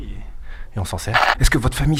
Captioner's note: tape noise